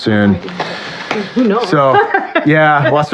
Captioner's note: laughghs